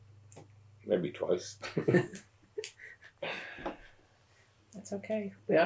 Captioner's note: laughs